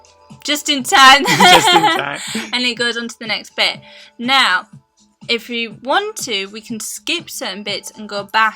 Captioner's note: laugh